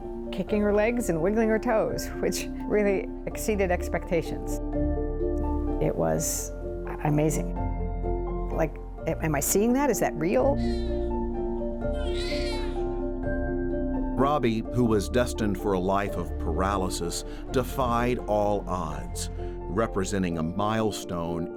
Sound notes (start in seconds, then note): 11.9 baby cries